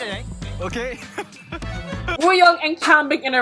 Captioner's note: laughs